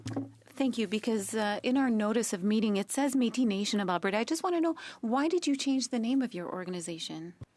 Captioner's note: speaking French